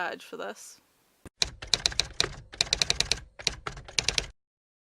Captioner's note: typewriter typing